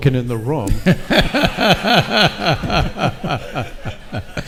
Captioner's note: all laugh